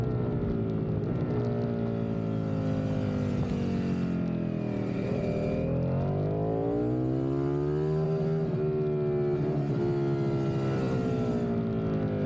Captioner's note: engine roaring